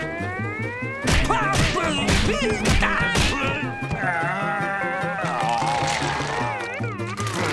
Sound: groaning

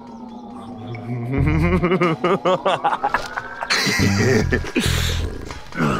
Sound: strange, ominous music; laughs mischievously

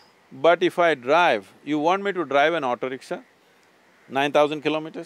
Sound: none

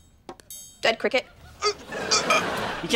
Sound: gagging

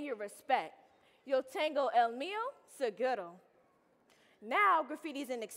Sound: speaking in Spanish

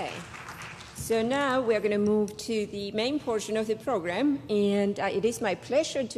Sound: applause

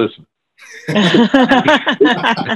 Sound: laughing

